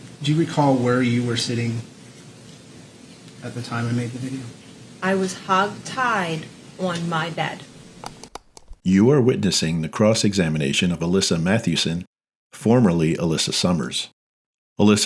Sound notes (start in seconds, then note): 7.8 mouse clicks